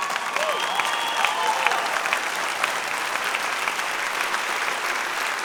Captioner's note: audience cheering and applause